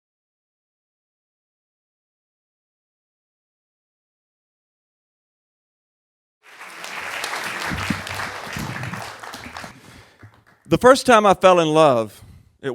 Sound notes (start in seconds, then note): 6.4 crowd applauding